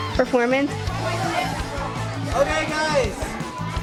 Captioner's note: excited chatter